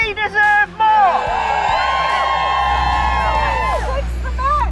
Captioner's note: protestors cheer